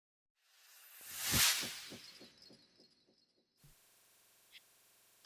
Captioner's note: sound effect